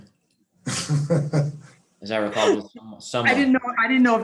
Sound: laughing

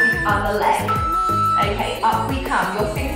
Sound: timer beeping

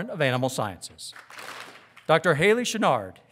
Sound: audience claps

